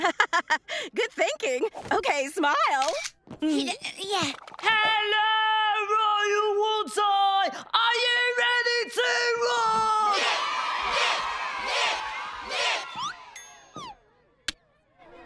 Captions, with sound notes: [chuckles nervously] Good thinking. Okay, smile. Uh, yeah. Hello, Royal Woods High! Are you ready to rock? [cheering] [chanting] Mick! Mick! Mick!